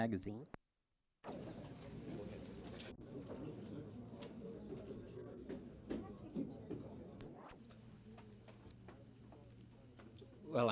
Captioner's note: crowd noise